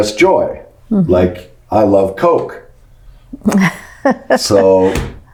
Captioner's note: laughs